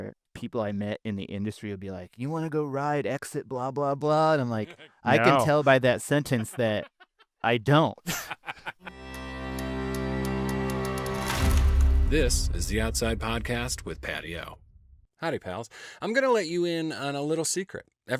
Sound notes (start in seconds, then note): 8.0 laughing; 8.9 dramatic music